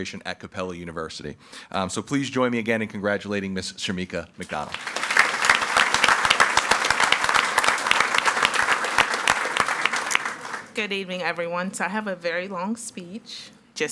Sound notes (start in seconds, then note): 4.5 audience applauding